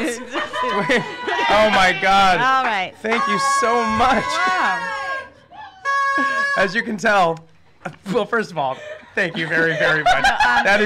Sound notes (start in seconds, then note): 5.7 horn blowing